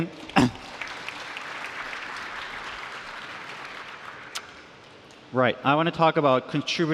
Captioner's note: applause